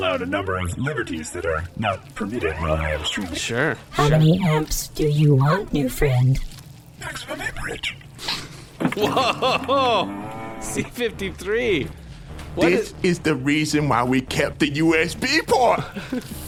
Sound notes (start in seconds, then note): 3.9 robotic voice; 9.1 whispered